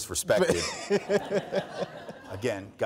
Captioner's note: all laughs